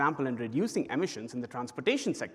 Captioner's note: none